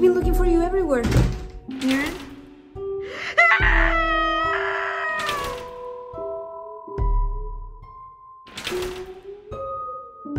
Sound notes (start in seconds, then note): 3.3 screams